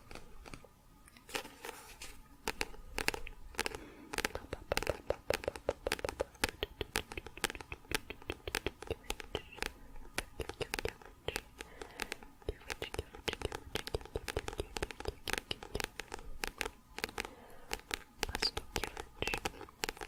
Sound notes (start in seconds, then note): 0.1 tapping on book; 17.6 tapping on book